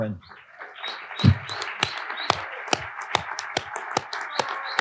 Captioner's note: audience applauding